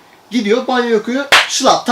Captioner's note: slap